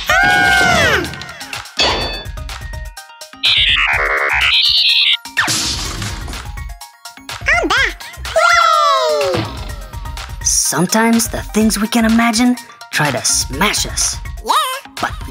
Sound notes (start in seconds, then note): 0.0 Gigglebots scream; 3.4 robot beeps; 5.4 crash